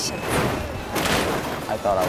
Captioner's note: truck crashing